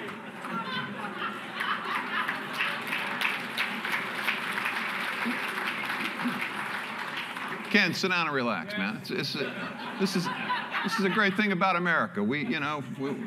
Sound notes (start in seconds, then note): 0.6 laughter; 4.6 applause